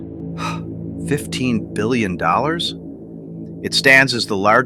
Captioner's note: gasps